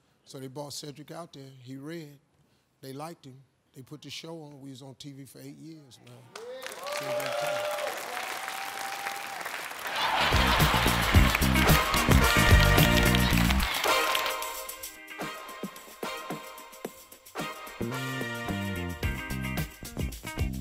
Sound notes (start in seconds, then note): 6.3 cheers; 6.3 applause; 10.5 bouncy music